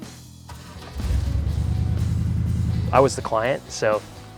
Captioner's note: engine starts